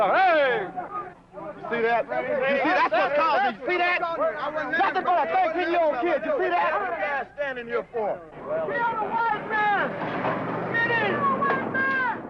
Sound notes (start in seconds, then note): 0.3 voiceover; 7.1 voiceover; 8.3 crowd shouting